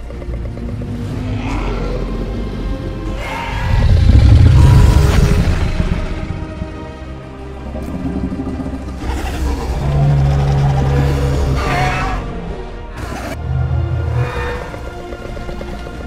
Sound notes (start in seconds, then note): 4.5 Apatosaurus cries; 11.6 Scorpius Rex screeching